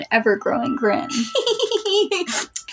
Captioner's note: smug Giggle